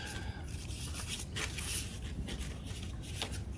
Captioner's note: paper rustling